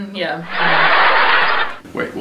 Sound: laughing

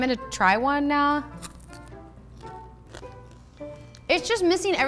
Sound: crunching

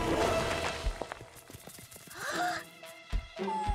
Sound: gasps; whimpering

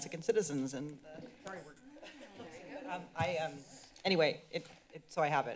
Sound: background conversations

